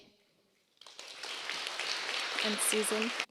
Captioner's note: applause